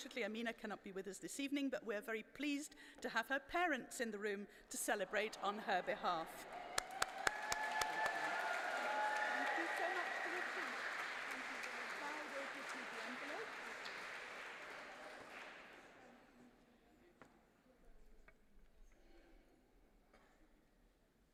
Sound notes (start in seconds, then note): 11.7 applause